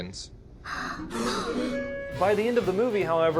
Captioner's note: crowd gasps